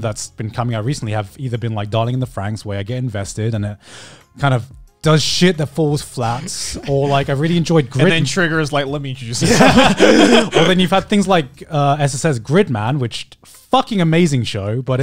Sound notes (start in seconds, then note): 9.4 everyone laughs